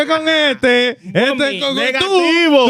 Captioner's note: laughing; speaking Foreign Language